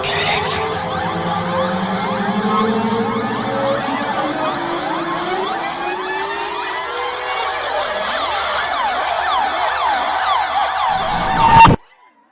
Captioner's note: ear Piercing Sounds persists